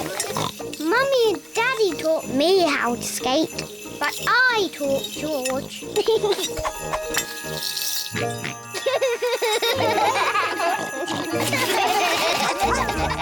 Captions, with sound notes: (SNORTS) Mummy and Daddy taught me how to skate. -But I taught George. -(GIGGLES) (SNORTS AND GIGGLES) (ALL LAUGH)